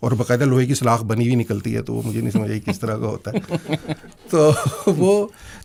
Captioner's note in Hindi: हंसी